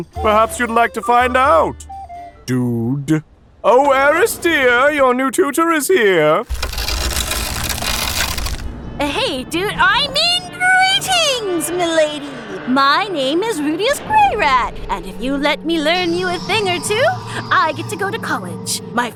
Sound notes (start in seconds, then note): 6.4 neck cracking; 9.0 suspenseful music